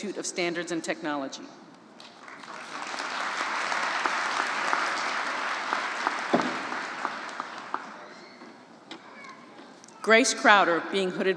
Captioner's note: applause